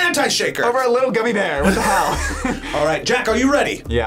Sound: laughs

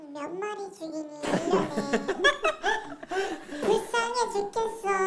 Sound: laughing

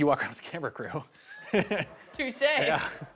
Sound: laughs

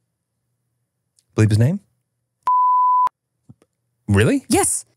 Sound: beep

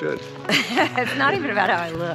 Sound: laughing amusingly

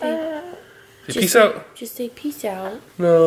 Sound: sad moaning

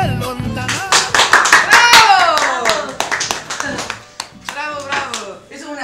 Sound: applause

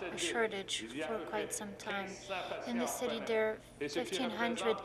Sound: speaking French

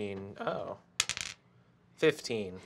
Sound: die clacks

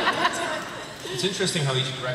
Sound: laughter

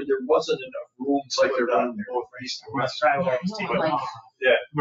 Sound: people chattering

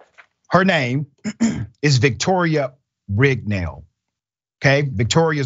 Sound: cough

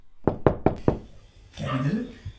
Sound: knocks

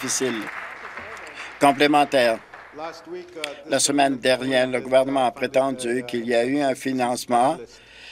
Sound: applause

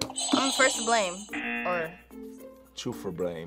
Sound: buzzer rings; buzzer

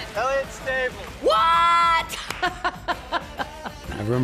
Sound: laughing

